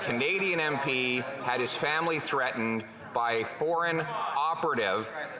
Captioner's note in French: voix de l'interprète